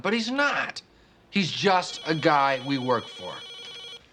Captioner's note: phone rings